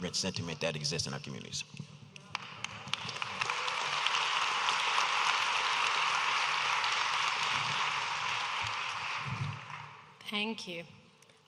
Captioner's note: audience applauding